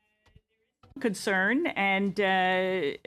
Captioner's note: speaking French